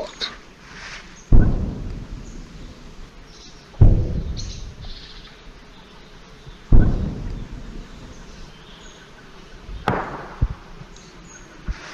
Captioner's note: birds tweeting sounds; sounds of explosions